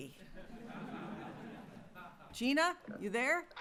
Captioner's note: laughter